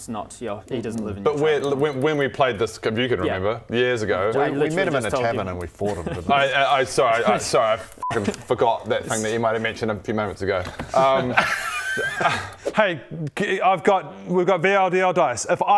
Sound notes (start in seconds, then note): 10.8 un-sorry laughter